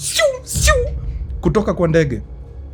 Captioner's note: flying sounds